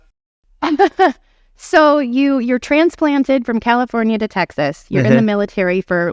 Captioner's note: laughing